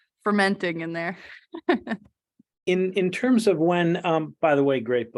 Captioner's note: laughter